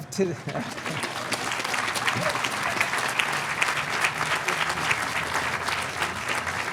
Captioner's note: audience applauding